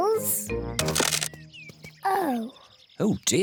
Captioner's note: cracking